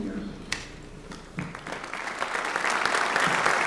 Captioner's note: applause